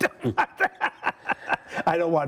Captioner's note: laughs